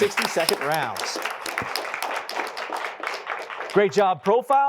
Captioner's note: applause